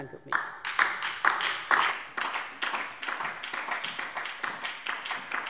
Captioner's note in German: Beifall DIE LINKE und vereinzelt SPD